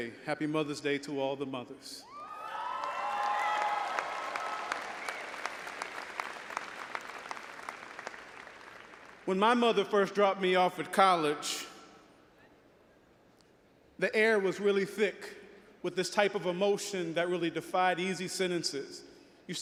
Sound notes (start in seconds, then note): 2.2 all applauding and audience cheering